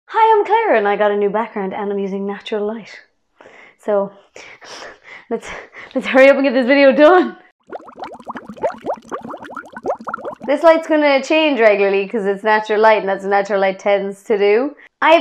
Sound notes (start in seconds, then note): 7.6 bubbles